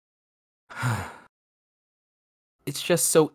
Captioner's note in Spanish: suspiro